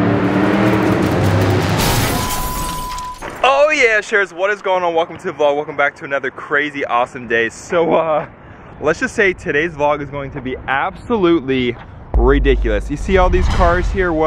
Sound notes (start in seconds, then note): 0.0 truck engine revs; 1.7 glass breaking